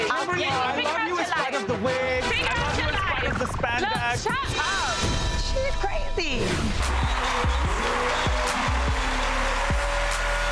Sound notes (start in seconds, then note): 6.4 logo whooshing; 6.7 crowd raving